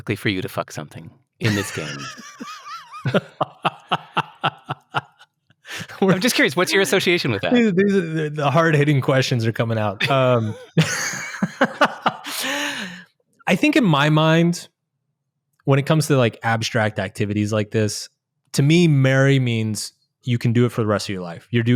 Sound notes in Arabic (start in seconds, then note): 1.4 يضحك; 10.0 يضحك